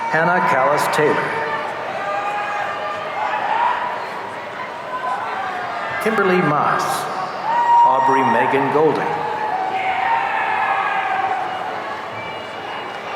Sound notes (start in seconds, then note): 2.1 audience cheering; 9.9 audience cheering